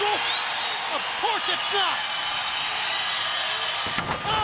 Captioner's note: crowd cheering